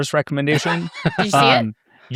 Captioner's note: participants laughing